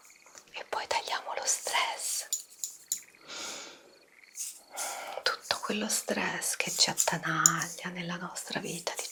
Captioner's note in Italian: sbuffare